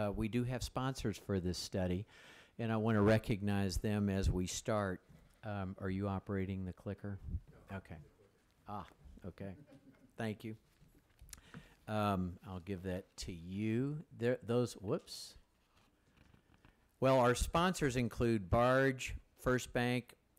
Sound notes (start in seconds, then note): 9.4 some chuckling